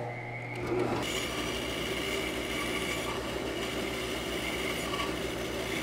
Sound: band saw cutting through wood

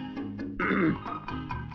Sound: clears throat

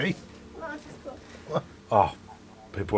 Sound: laughing

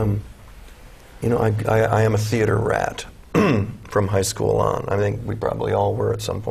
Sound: cough

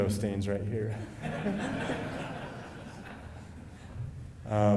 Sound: laughing

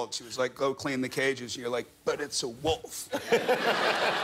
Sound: laughter

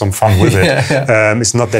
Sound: laughs

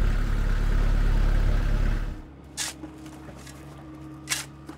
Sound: shovel scraping dirt

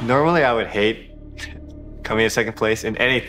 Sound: laughs

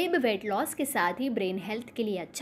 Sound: hindi

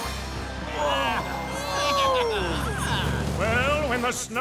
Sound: laughing

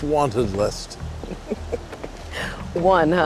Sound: laughs

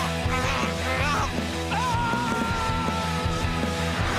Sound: screams

